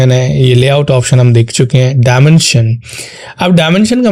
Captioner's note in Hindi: नाक से की जाने वाली आवाज़